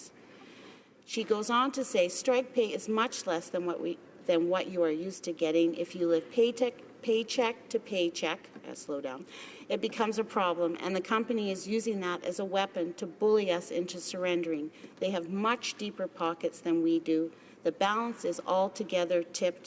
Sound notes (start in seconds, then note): none